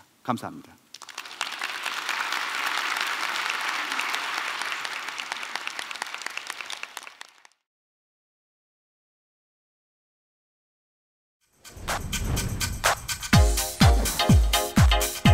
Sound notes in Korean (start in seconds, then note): 0.9 박수